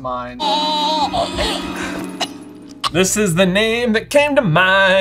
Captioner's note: Sybill gasping suffocatingly